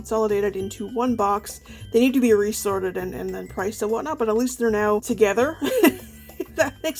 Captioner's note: laughs